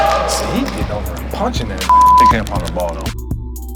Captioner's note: beep